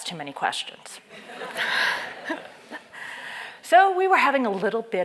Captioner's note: laugh